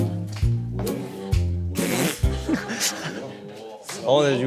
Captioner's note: pfft hahaha